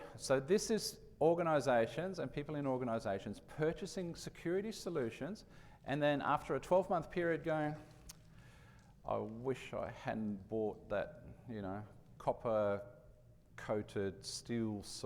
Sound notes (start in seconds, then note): none